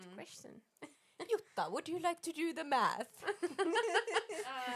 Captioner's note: laughing